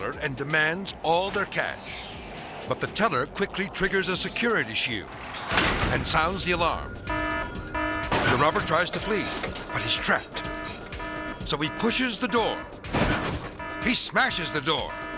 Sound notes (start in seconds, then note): 7.3 alarm blaring